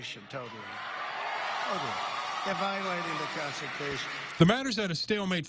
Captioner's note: applause from crowd